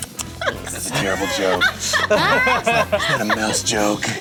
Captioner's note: laughter